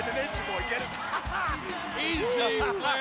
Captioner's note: laughs